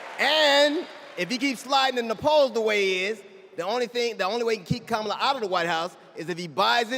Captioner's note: cheers and applause